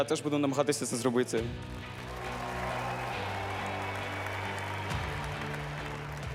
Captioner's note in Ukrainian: оплески